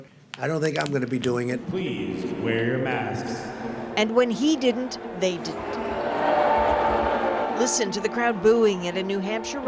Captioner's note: crowd voice